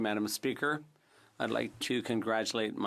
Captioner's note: speaking in french